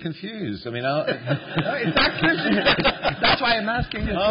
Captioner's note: laughter